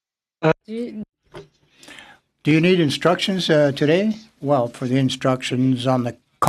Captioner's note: speaking French